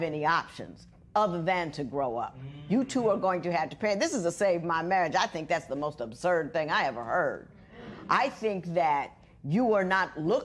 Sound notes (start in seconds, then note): none